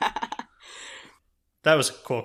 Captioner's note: laughs